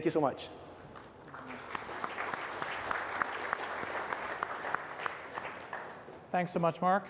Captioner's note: applause